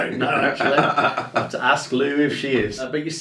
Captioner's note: laughs